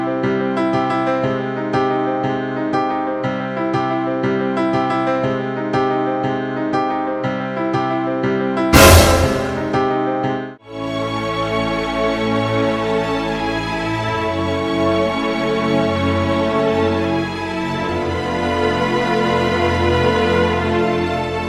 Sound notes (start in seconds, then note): 0.2 keyboard music; 8.7 loud crash; 11.2 dramatic music